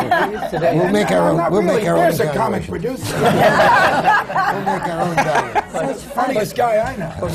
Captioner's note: laughter